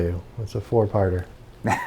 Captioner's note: murmurs